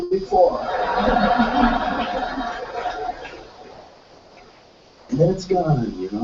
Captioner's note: laugh